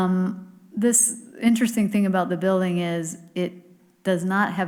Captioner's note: none